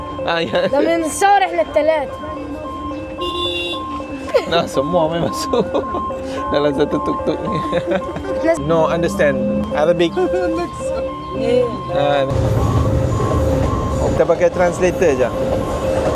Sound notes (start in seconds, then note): 0.2 speaking Arabic; 8.0 laugh